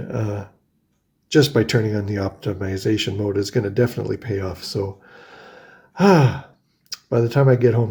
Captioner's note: sighs